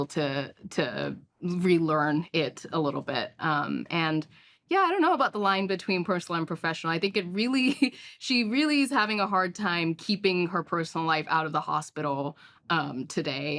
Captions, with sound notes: to relearn it a little bit. And yeah, I don't know about the line between personal and professional. I think it really-- (CHUCKLES) She really is having a hard time keeping her personal life out of the hospital today,